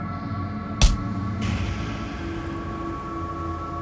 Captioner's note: smacking